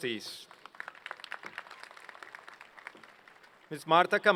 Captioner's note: applause